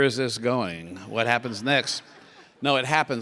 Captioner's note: laugh